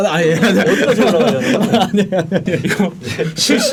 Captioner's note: complaining